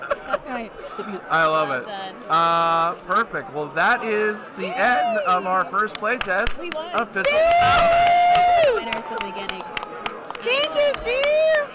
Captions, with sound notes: That's right. I love it. Uh, perfect. Well, that is the end of our first play test of (clapping). Thank you. Steve.